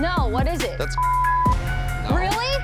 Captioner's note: beep